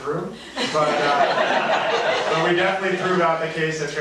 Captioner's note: audience laughing